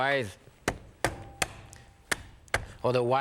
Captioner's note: crab mallet thuds